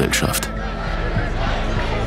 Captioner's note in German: Sprechchöre